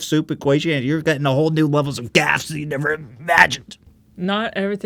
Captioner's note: Ethan Klein Choking Sound™